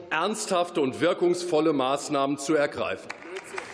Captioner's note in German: Beifall